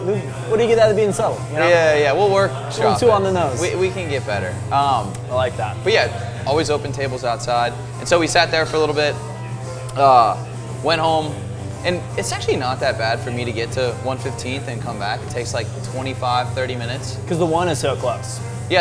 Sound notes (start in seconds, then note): none